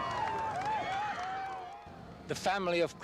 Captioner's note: crowd cheering